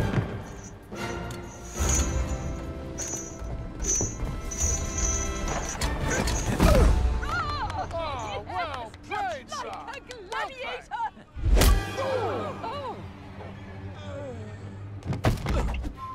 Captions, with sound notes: – Well played, sir! Well played! – Just like a gladiator! (ALL EXCLAIM)